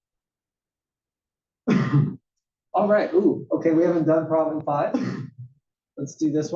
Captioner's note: cough